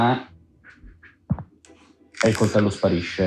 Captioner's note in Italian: Fruscio